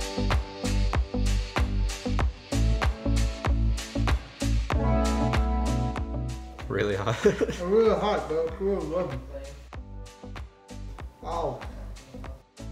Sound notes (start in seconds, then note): 7.0 laughing